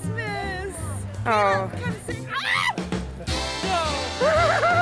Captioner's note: screams